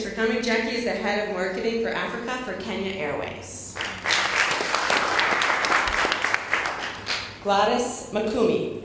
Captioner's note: applause